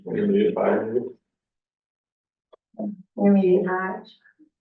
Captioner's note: muffled voice